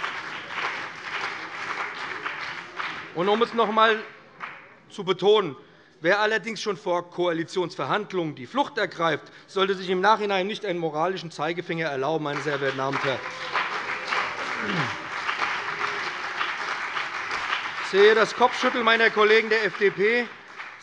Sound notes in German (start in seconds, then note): 12.6 Lebhafter Beifall BÜNDNIS 90/DIE GRÜNEN und CDU